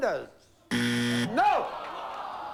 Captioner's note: buzzer